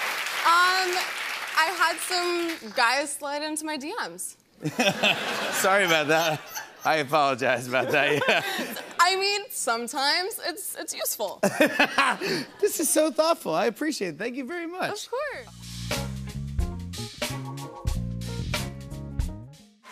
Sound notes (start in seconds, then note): 4.6 laughter; 11.5 laughs